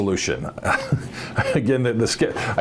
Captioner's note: chuckling